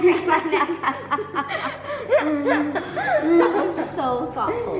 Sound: mom laughs

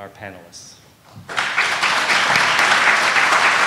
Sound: applause

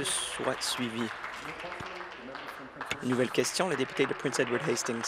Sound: applause

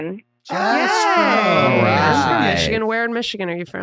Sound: group exclaiming

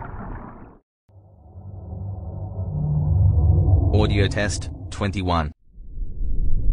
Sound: eerie ethereal transitional SFX

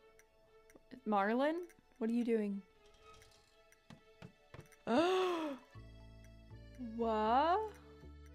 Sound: gasp

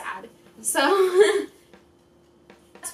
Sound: laughs

